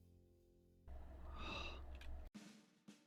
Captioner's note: sigh